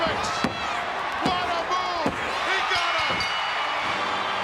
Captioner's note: bell dinging; bright music